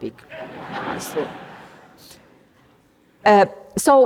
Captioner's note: laughter